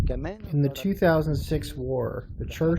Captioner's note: through translator